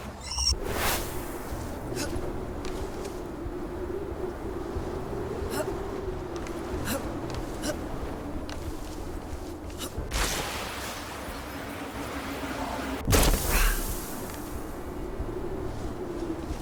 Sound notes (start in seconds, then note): 1.3 wind blowing; 5.6 electricity buzzing